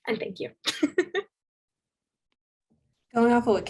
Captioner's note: laughs